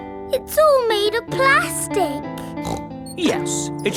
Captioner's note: hollow taps; snorts